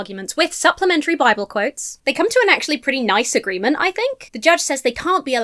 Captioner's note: none